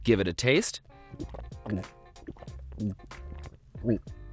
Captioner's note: slurping